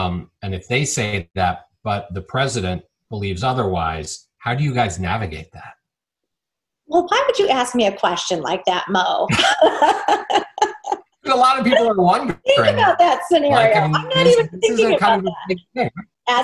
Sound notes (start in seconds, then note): 9.2 Chairwoman McDaniel laughing